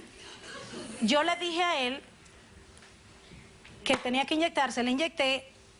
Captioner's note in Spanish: Risas